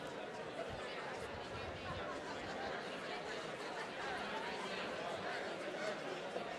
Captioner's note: attendees chattering continues